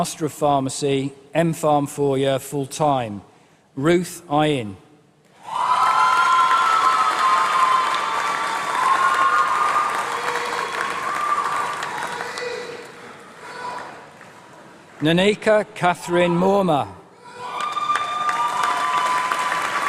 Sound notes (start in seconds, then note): 9.4 applause